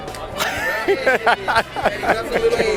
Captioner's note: laughs